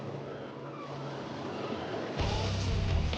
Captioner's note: seagulls squawking